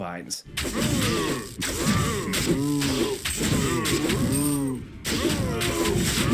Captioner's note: Hell Bovines grunting; blade thwacking